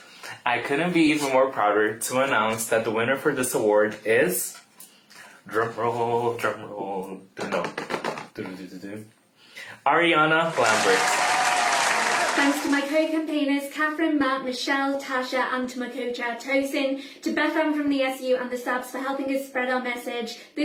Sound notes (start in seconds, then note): 7.7 hitting card with pen in beat; 10.5 applause